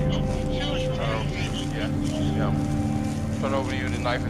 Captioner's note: officers chattering